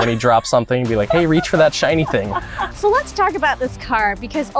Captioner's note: laughs